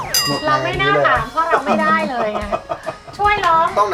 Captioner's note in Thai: เสียงเอฟเฟกต์; หัวเราะ